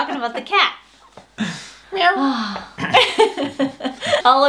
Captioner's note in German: Gelächter